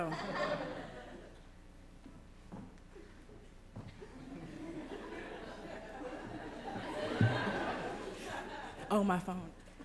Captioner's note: laughter